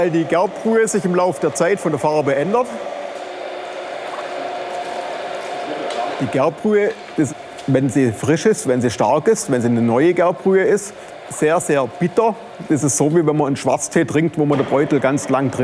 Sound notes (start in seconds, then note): 4.1 bubbling, whirring